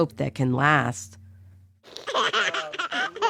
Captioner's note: laughing